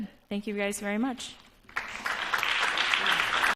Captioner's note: applause